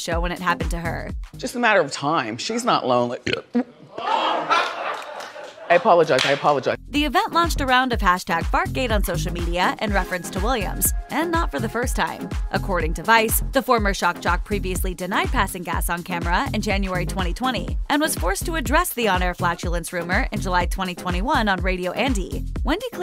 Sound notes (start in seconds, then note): 3.2 burps and farts; 3.7 crowd laughs